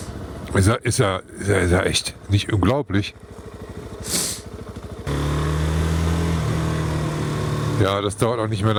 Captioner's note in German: schnauben